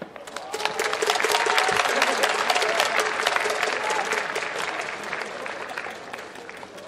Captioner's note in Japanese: 拍手